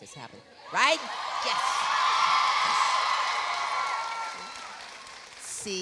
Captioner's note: audience cheering